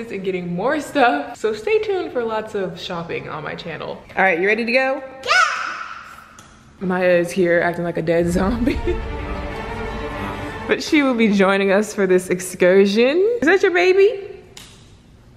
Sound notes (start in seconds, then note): 5.2 child yells; 7.9 intense music